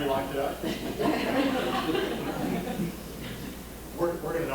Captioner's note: audience laughing